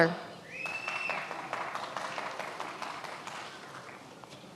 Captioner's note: many applauding